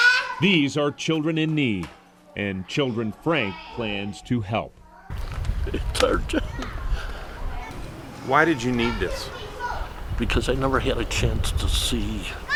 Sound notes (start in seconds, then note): 0.0 yelling in Vietnamese; 5.7 choking up